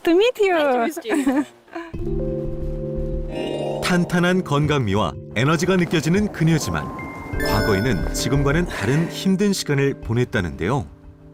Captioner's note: voiceover